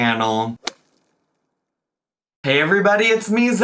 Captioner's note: title splats